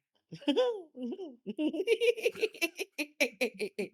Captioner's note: laughing